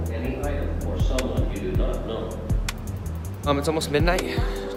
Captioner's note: man Over Speaker